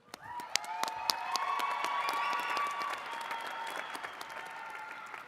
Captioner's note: attendees cheering and clapping